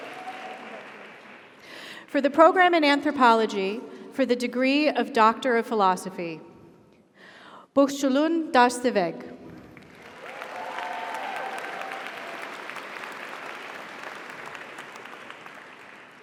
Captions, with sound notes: - Congratulations. - For the Program in Anthropology for the Degree of Doctor of Philosophy, Bukhchuluun Dashzeveg. (audience applauds) (audience cheers)